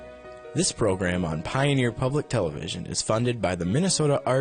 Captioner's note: voiceover